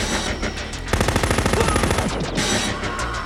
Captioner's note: machine gun firing; man screaming